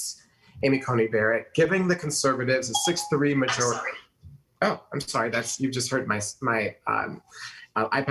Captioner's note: ding